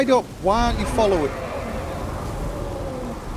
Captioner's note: dragon roaring